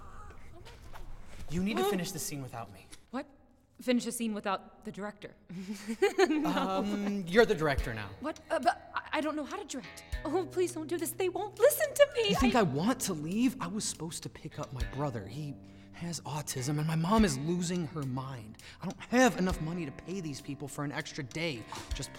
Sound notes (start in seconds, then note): 5.6 laugh